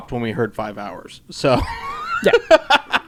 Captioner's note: laughs